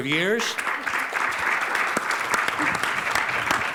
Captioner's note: applause